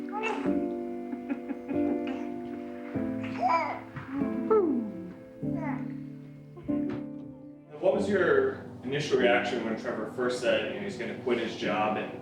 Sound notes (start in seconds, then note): 1.0 man laughs